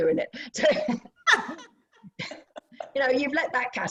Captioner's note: laughter